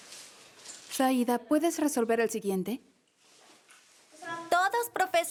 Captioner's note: Arabic spoken audio